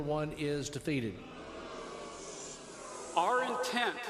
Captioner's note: crowd exclaiming